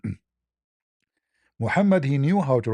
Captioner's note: berdehem